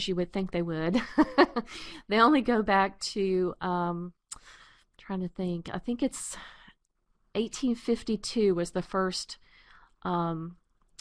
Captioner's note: laughter